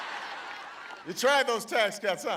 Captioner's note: laughter